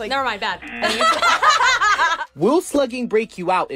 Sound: both laugh; laughs

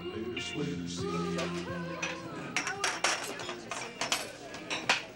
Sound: kids chatter

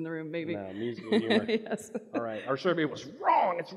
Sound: laughs

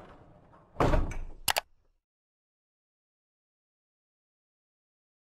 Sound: mouse clicking

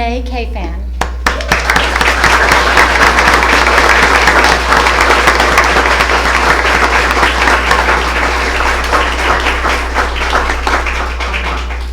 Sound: applause

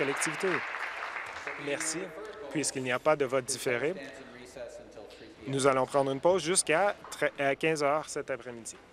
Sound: applause

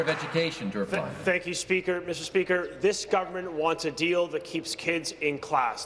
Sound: applause

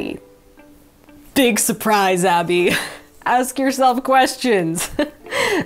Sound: chuckles

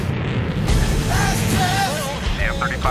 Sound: engines roaring

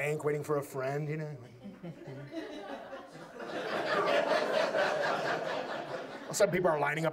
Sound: audience laughs

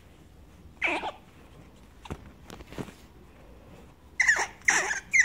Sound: squirrel squeaks

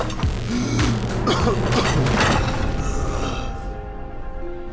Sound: gasping and coughing; groans

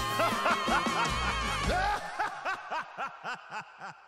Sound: creepy laughing

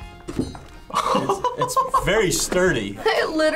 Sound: laughs

